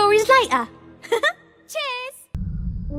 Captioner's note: chuckles